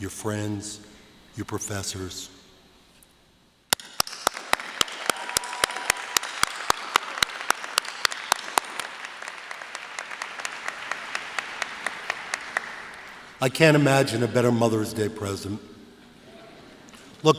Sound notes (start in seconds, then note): 3.8 applause